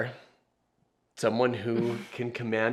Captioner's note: chuckles